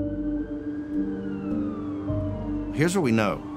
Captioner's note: sirens wailing in distance